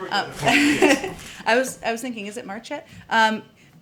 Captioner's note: laughs